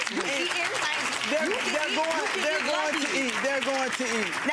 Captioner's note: audience applause drowning out words